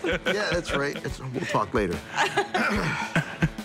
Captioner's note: laughter